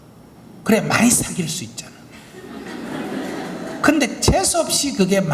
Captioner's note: audience Laughter